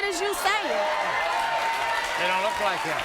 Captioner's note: audience cheering